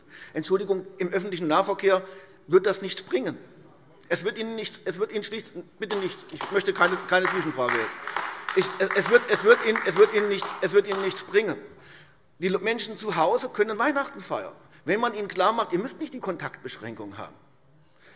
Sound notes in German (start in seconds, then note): 8.0 Beifall AfD